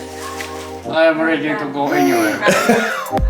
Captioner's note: cooing; laughs